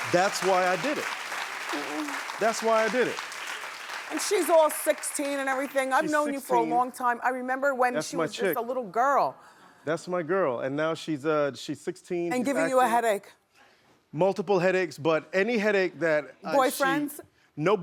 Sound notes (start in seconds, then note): 3.6 clapping